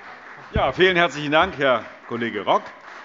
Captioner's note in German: Beifall Freie Demokraten